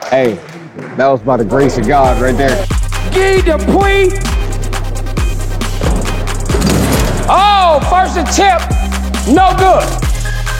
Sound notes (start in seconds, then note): 5.8 dunk sound